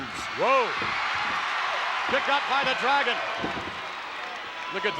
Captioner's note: applause